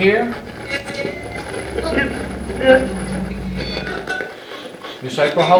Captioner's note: radio channel changing